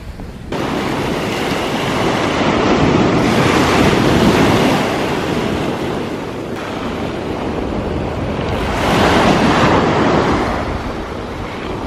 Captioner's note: wind noise; ocean wave sounds